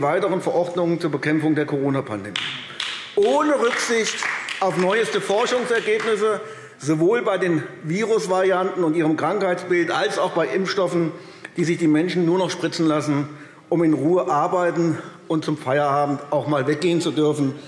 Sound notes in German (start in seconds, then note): 2.3 Beifall AfD